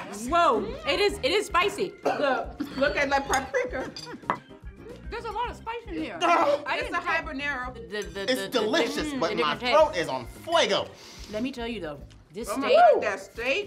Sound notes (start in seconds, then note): 2.0 coughing; 10.7 speaks Spanish